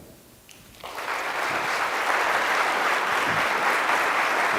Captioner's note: audience applause